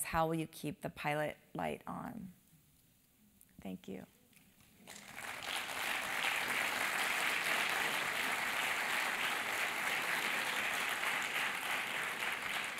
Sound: applause

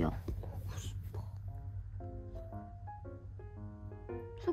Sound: whispering

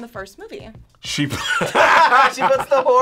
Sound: laughs

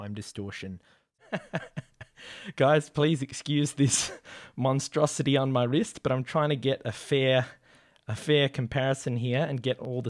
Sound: chuckling

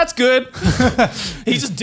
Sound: laughs

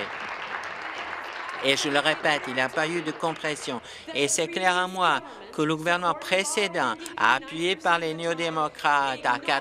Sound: applause

